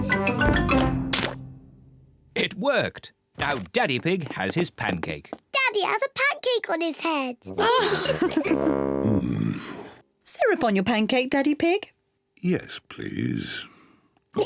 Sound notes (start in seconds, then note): 7.5 kids and mummy pig laugh